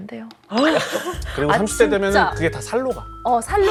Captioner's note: gasp